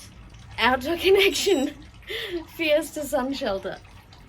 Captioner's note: laughing